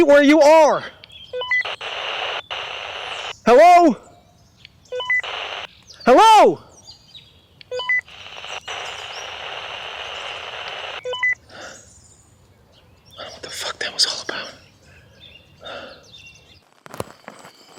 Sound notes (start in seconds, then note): 0.3 mysterious Voice On Radio; 5.0 static crackling; 8.8 mysterious Voice On Radio; 13.6 mysterious Voice On Radio